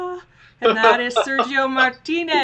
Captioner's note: laughs